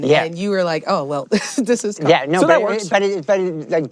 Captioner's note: laughs